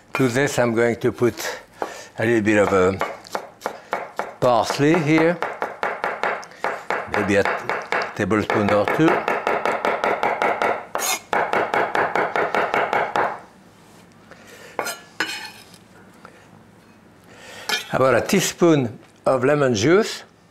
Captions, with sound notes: To this I'm going to put a little bit of a parsley here. (Chef chopping) Maybe a tablespoon or two. How about a teaspoon of lemon juice?